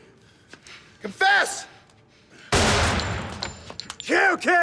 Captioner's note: gunshot